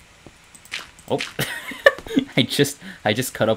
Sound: laughs

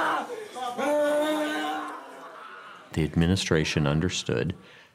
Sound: screaming

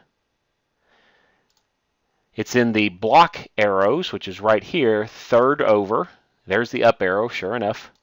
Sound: click

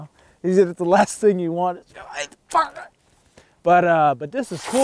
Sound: grunting

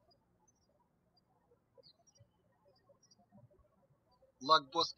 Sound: birds chirping

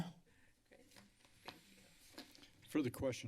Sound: paper rustling sound

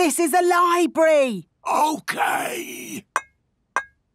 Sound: whispering

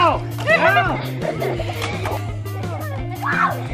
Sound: laughing

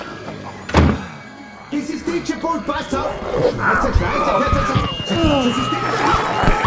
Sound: deejay speaking German; screaming

